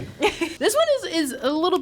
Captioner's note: laughs